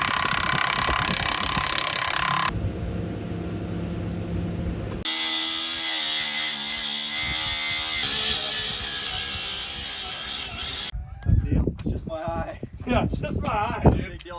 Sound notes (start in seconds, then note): 0.0 drill clanging; 5.0 saw cutting